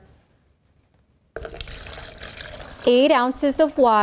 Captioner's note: water pouring into cup